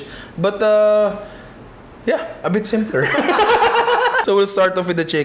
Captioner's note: laughter